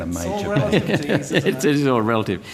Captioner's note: laughter